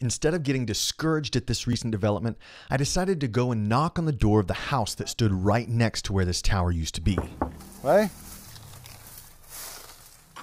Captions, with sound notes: Instead of getting discouraged at this recent development, I decided to go and knock on the door of the house that stood right next to where this tower used to be. (knock knock)